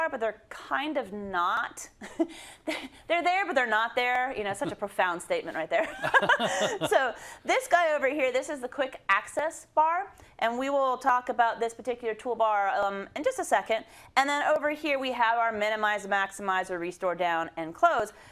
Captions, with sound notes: but they're kind of not [LAUGH]. They're there but they're not there. Such a profound statement right there [LAUGH]. -[LAUGH] -So this guy over here, this is the quick access bar. And we will talk about this particular toolbar in just a second. And then over here we have our minimize, maximize or restore down, and close.